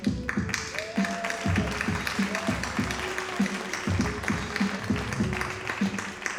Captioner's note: audience cheering and applauding